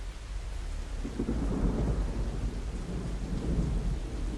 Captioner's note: thunder rolling